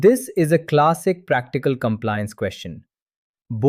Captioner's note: thoughtful